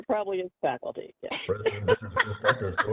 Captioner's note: laughing